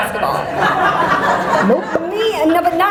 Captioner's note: audience laughter